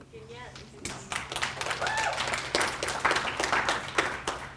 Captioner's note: applause